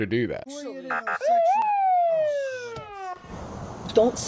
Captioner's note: sirens